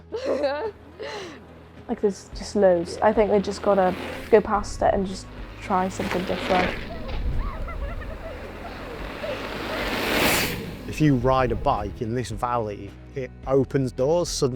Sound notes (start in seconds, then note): 0.0 giggles; 5.5 giggles, approaching bikes getting louder; 9.7 bikes whoosh past!